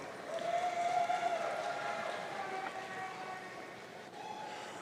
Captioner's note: audience cheering